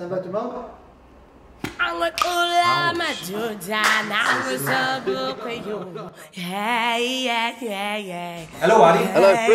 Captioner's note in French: chants Afrikaans